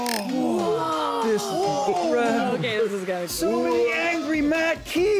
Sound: overlapping sounds of wonder and amazement

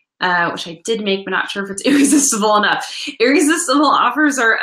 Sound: laughs

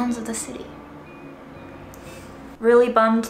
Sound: engine running

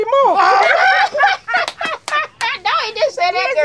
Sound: all laugh

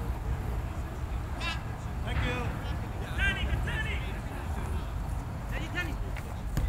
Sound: players talking and yelling

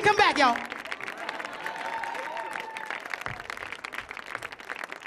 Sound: audience applauds

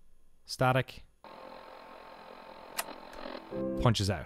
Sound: static high tone

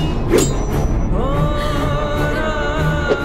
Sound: crying

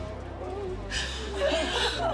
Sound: crying

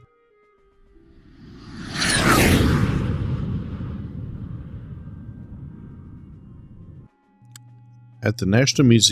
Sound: jet Whoosh Sounds

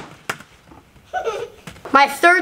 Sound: offscreen giggling

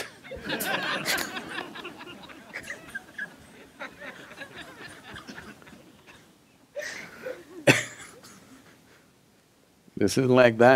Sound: laughter

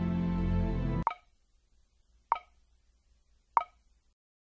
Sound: ticking

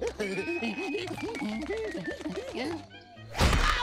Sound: giggling; humming

